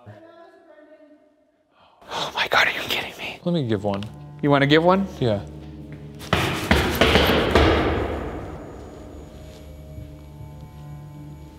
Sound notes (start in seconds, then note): 6.2 stomping; 8.8 eerie music